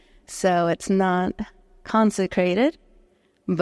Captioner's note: none